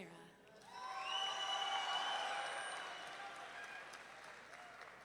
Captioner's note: audience members cheering